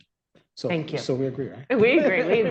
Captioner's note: laughter